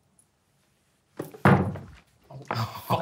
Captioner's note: cards hitting table